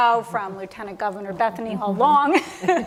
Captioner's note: chuckle